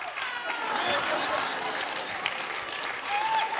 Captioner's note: laughter